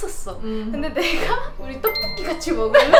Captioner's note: pfft